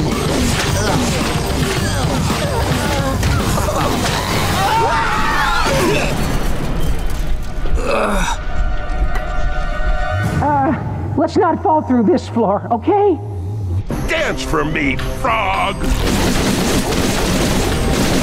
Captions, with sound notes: [groaning] [screaming, grunting] [groaning] Uh, let's not fall through this floor, okay? Dance for me, frog.